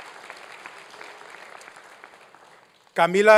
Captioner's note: applause